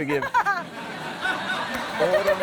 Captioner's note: laughter